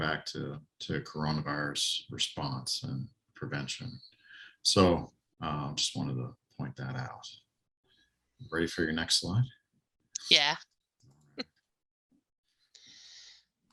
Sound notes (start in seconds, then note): 10.7 chuckles